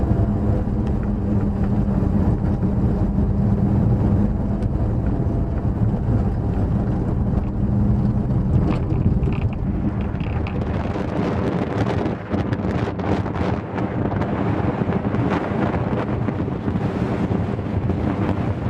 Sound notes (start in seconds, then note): 1.9 engine noise; 11.5 wind noise